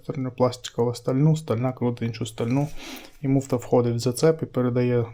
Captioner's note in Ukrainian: сопіння